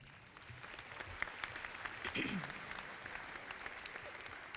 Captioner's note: audience clapping